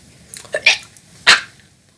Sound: choking

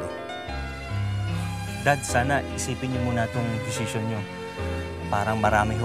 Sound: sighs

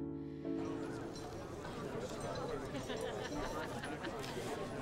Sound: crowd chattering

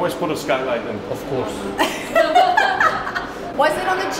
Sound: group laughing

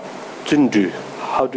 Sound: speaking in foreign language

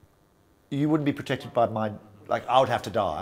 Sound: none

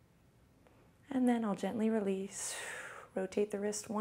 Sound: exhales

